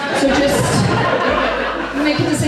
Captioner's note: audience Laughs